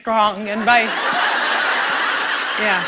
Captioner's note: laughter